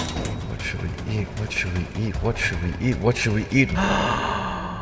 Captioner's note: gasp of realization